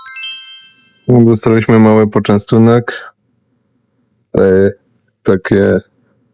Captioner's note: chime sound